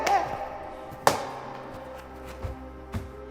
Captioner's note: crash